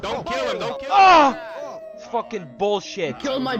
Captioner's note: shouting; moans in pain